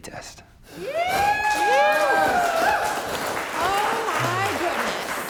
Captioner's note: contestants cheering